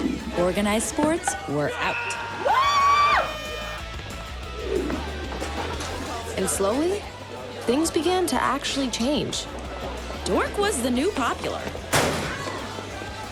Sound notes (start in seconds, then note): 1.8 cheering; 3.0 party horn blares; 11.9 locker slams